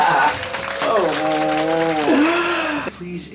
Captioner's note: exclaim; laughing